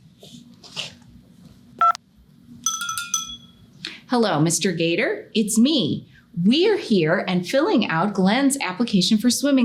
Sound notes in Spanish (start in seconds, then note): 1.8 pitidos de botón; 2.6 jingles telefónicos